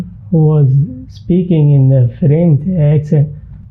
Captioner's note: imitating French accent